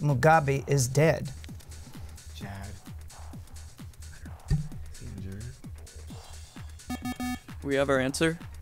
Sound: wispering

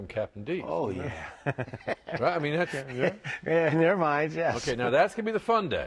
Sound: laughter

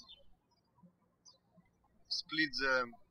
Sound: birds chirping

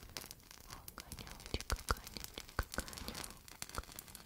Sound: fire

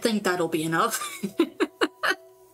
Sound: laughter

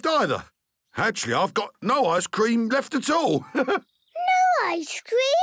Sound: chuckles

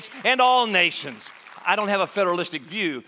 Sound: applause

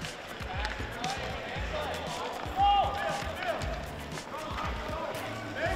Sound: background chatter

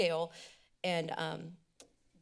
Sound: inhales deeply

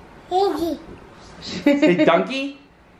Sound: laughing

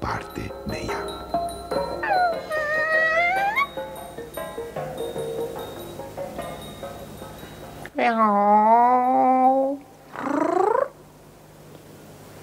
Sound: imitates cat purring

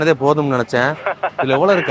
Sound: laughing

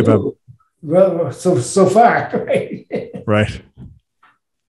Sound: laughs

